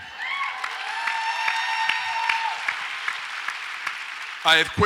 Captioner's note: audience applauds and cheers